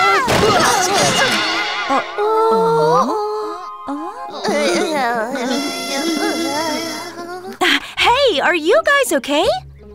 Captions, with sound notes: Oh? [all groan] Hey! Are you guys okay?